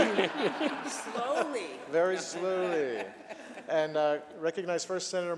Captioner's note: laughter